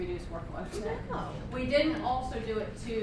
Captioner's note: voiceover